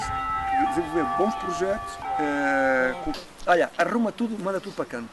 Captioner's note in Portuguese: sinos de igreja